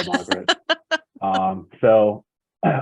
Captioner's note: laughs